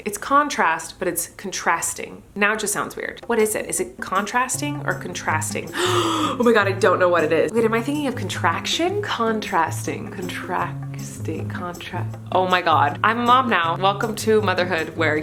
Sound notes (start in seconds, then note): 5.7 gasps